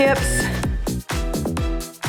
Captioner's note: timer beeps; cheerful music